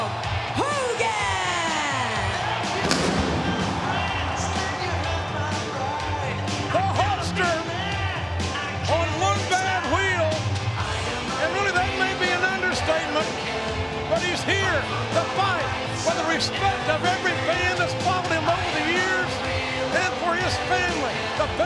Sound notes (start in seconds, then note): 2.8 fireworks boom